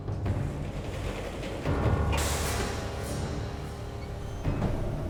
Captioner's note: elevator door rattles